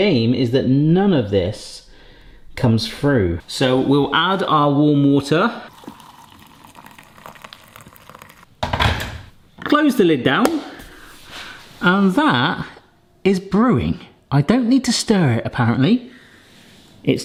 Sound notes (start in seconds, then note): 5.6 water pouring; 8.5 kettle clicks